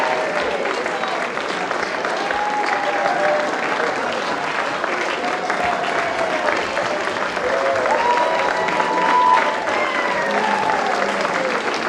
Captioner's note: applause